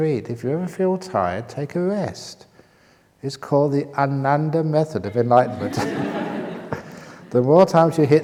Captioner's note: laughter